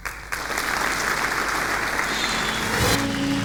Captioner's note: applause